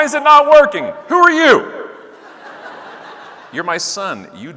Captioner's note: audience laughing